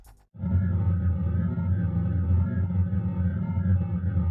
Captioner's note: spacecraft rumbling